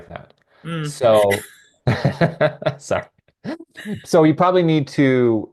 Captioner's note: laughing